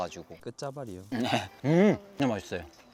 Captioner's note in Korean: 염소 웃음